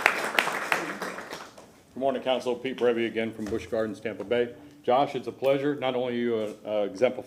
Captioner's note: applause